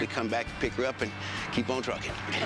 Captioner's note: men laugh